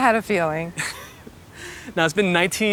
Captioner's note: camera Man chuckling